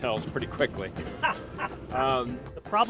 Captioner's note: laughing